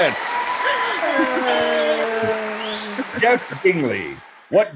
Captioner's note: cheering